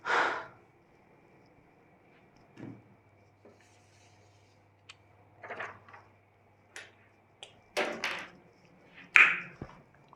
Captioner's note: more silence